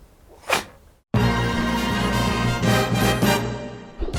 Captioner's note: dog sneezing